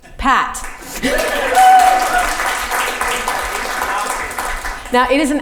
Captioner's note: audience applause can be heard